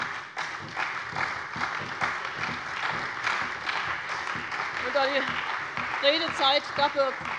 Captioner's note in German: Beifall bei der CDU, der SPD, dem BÜNDNIS 90/DIE GRÜNEN und der FDP